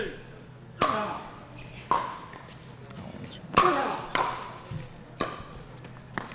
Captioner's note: ball being hit; shoes squeaking